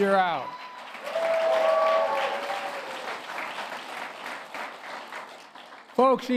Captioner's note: applause